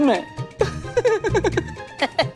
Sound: laughs

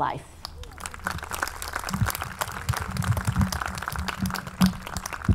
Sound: audience clapping

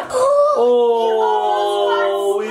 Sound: gasps

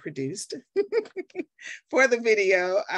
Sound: chuckling

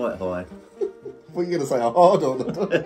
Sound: laughing; both laughing

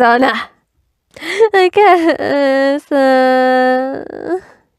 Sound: sobbing

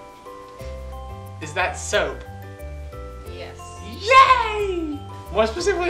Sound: cheers

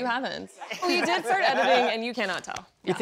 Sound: laughter

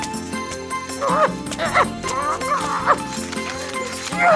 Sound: owl grumbling; owl groaning

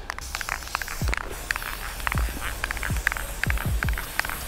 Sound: spray can clicking

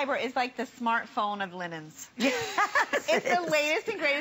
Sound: laughter

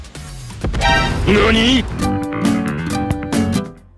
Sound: explosion in the backgroound

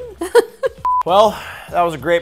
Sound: laughing; screen beeping

